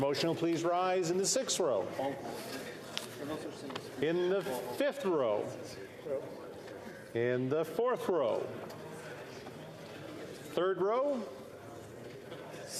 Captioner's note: calling of recorded vote